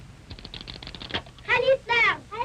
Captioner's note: skates rattling